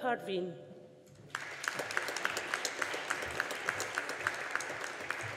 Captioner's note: audience applauding